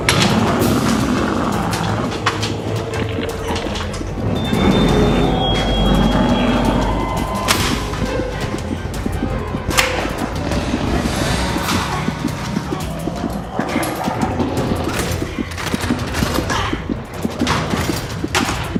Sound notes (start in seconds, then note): 3.5 fast paced music; 12.2 heartbeat racing